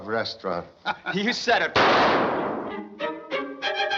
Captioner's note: chuckles